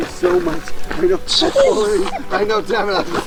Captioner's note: all laughing